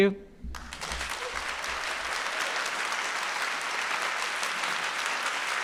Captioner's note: audience applauding